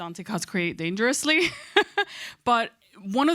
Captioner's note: chuckles